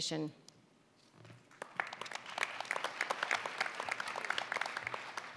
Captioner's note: applause